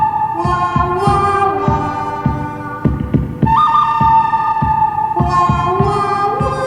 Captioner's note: record scrath